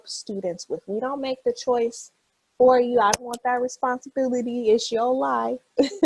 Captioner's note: laughs